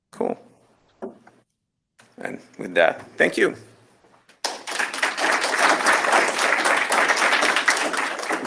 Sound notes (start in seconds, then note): 4.4 applause